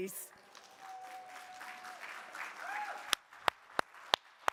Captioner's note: audience applauding